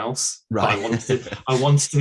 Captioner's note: laughs